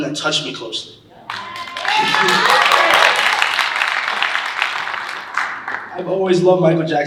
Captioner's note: audience cheering and applauding